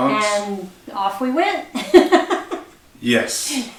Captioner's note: laughs